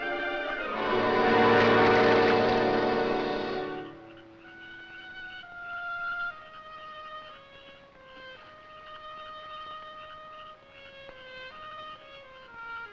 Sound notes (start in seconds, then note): 0.8 water splashes; 6.3 somber music